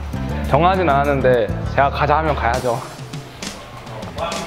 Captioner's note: haha